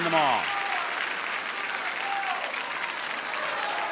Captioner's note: audience cheers and applauds